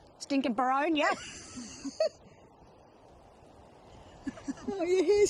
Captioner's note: laughing